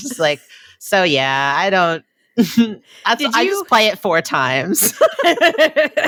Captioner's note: both laugh